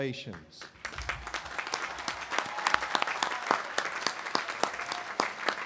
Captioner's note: audience applauding